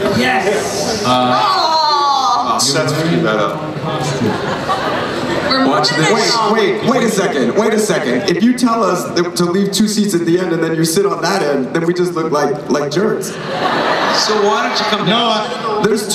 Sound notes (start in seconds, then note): 13.2 crowd laughs